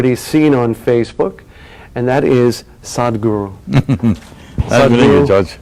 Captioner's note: Sadhguru laughs